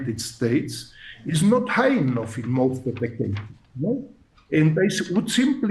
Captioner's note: audio cutting out